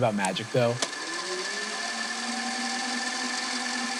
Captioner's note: film whirring